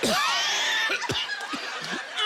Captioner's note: coughing